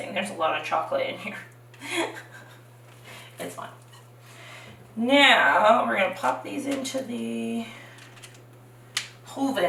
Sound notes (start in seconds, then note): 1.8 chuckles